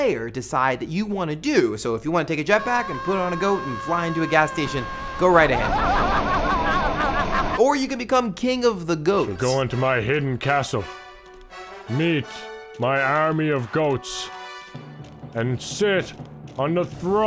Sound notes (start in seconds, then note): 6.6 laughing